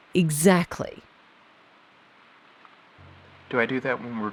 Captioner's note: SFX: Outside ambient noise fills silence